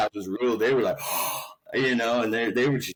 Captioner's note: gasps